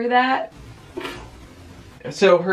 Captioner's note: popping sound